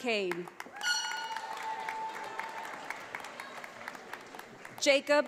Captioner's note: audience applauds